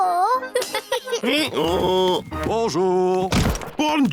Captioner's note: both giggle; brays